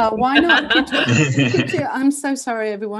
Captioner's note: chuckles